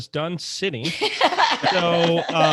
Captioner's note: laughs